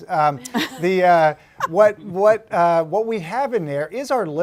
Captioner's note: laugh